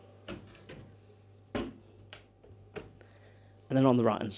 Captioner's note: door thuds